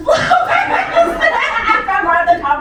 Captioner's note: laughter